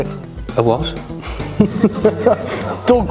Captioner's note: laughter